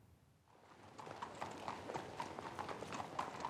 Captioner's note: horse hooves clomping